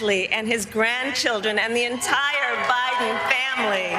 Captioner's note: cheers and applause